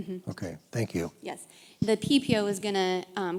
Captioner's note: voiceover